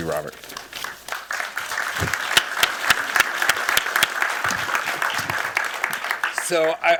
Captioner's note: applause